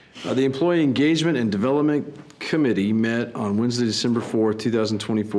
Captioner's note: none